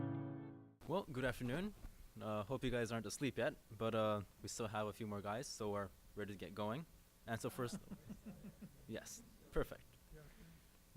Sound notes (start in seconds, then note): 7.7 laughter from audience